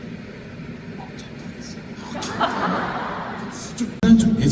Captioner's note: whispering